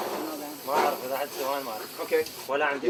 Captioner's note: man speaks in Arabic